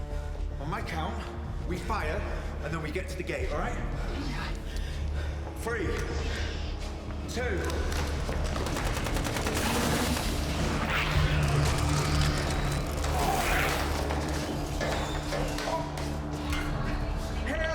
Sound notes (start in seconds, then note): 7.6 guns firing; 11.7 dramatic music; 13.6 guns firing; 15.2 dinosaurs growling